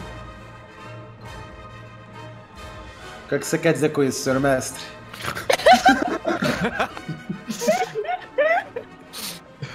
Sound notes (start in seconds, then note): 5.2 laugh